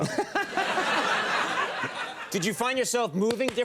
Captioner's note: Conan and audience laughing